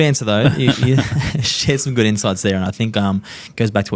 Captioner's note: all laughing